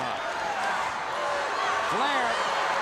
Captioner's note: crowd cheering